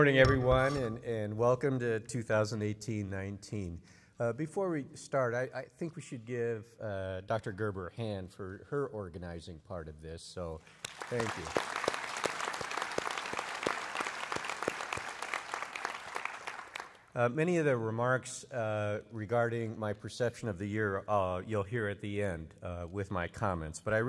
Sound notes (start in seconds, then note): 12.8 applause